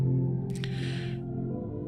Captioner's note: emotional inhale, about to say something, stops